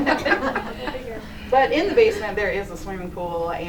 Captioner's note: laughter